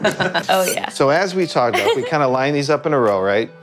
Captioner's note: laughing